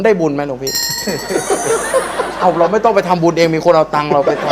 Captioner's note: laughing